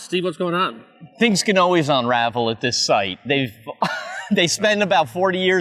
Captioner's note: chuckles